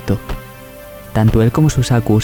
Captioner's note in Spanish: golpes